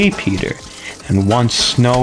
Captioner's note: inhales Oxygen